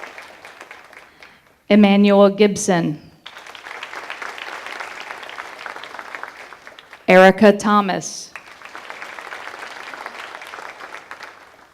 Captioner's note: applause